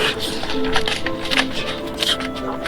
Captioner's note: Nerf guns fire